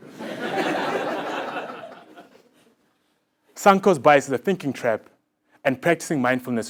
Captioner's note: laugh